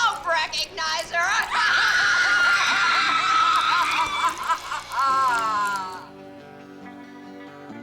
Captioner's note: child screams; woman cackles; soft country music